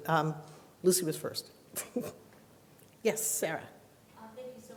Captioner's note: laughs